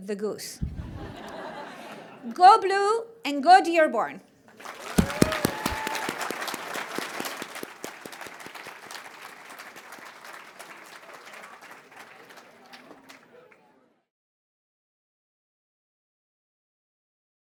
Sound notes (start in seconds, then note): 0.6 laughter; 4.5 applause